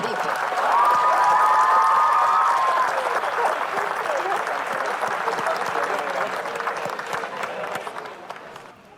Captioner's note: audience shouting and applauding